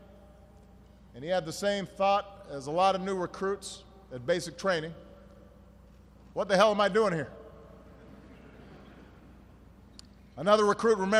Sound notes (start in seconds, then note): 8.0 laughter